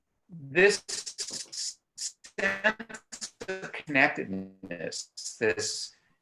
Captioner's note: static audio